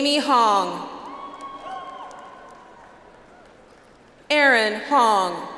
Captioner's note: audience applauds